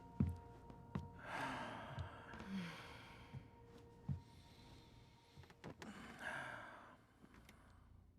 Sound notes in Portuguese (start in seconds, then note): 2.3 suspiro